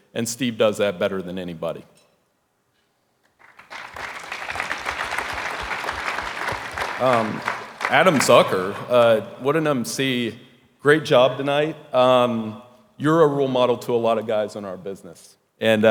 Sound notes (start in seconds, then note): 3.3 audience applauding